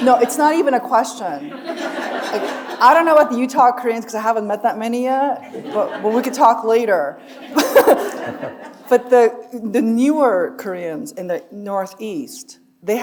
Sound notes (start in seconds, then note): 1.3 audience laughing; 7.2 chuckles